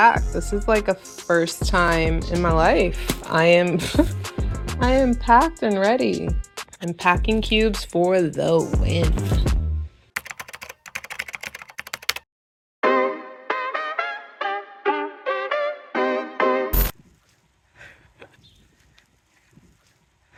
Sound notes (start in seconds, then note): 10.1 typing; 12.8 latin music